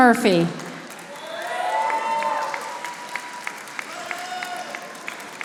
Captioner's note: audience applauding